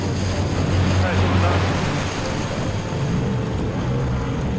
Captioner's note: waves rustling